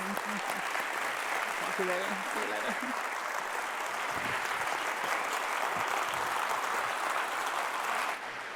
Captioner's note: applauds